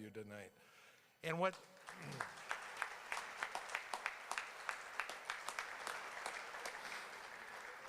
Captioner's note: applause